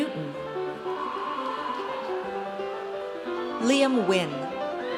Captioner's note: audience cheers